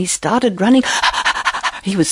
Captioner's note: lion panting